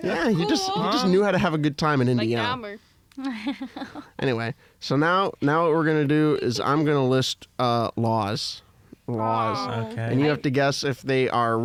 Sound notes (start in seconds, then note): 3.2 laughs; 9.2 everyone groans